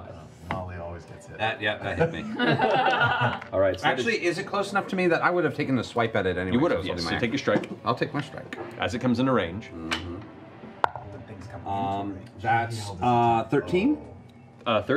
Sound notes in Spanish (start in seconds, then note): 2.0 risas